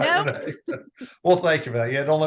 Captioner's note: laughs